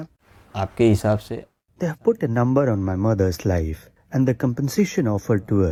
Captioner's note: speaking Gujarati